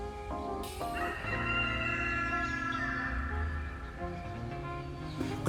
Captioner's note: rooster crow